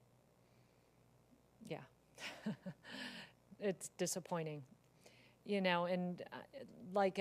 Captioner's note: laugh